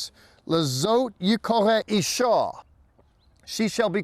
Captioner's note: speaking in Hebrew